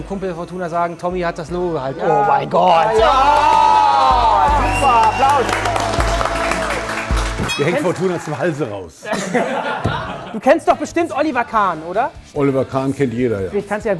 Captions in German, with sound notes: Dann können wir unserem Kumpel sagen, Thommy hat das Logo gehalten. Oh, mein Gott! (Jubel, Applaus) Super, Applaus. Mir hängt Fortuna zum Halse raus. (Lachen) Du kennst doch bestimmt Oliver Kahn, oder? Oliver Kahn kennt jeder.